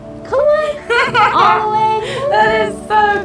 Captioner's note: Bethany laughing